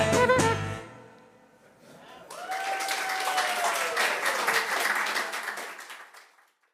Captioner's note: music abruptly stops. applause